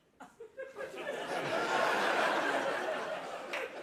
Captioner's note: laughter